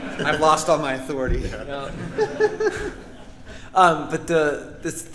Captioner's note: audience laughing